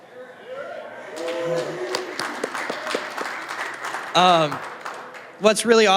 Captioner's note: applause